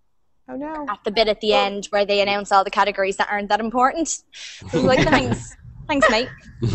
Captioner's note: risas